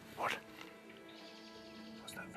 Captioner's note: birds chirping